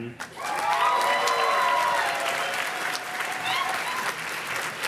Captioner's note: audience cheers and claps